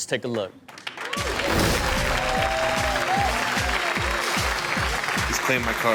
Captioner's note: audience cheers; rock music